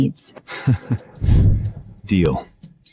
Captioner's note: chuckles